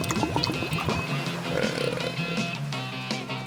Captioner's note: burps; rock and roll music